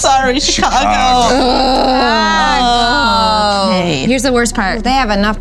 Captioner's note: grunts of disappointment